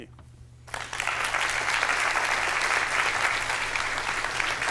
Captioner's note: applause